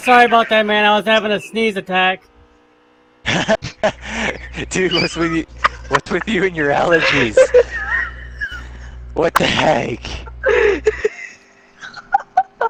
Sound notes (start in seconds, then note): 4.9 laughs; 8.5 uncontrolled laughter